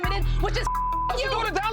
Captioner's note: beep